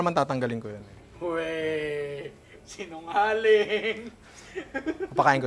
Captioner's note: laughs